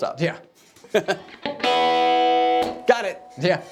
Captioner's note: laughing